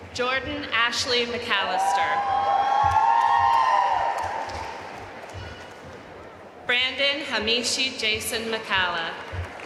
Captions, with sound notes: Jordan Ashleigh McAlister (audience cheering and applauding) Brandon Hamishi Jayson McCalla